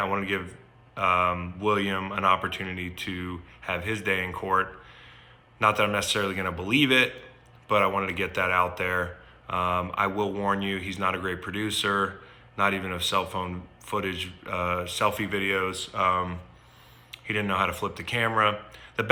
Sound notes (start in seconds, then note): none